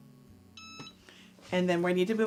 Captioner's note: beeping